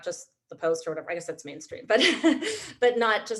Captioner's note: chuckles